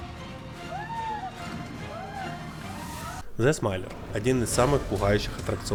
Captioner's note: applause